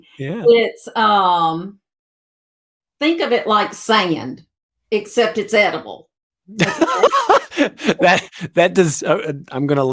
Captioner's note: both laughing